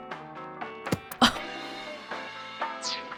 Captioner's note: scoffs